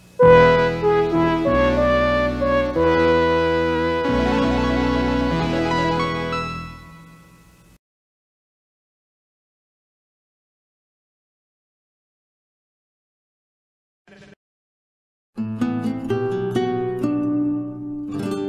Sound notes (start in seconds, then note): 0.2 early 80s synthesizer music playing; 8.3 silence; 15.3 nurturing guitar music playing